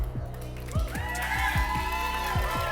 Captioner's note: applause and cheering